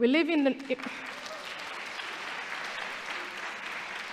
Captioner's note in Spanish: aplausos